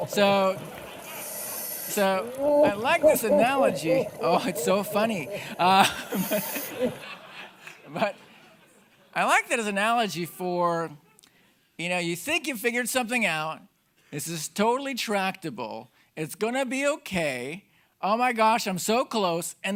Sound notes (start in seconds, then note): 6.1 audience laughing